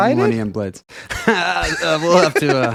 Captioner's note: laughing